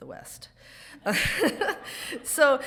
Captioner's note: laughs